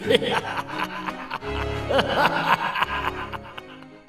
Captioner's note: Meet-Me-Mack laughs evilly